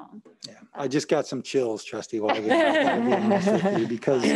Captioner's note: laughs loudly